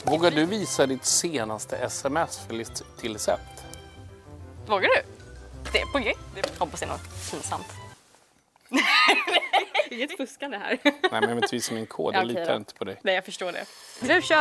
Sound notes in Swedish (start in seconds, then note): 8.7 Skratt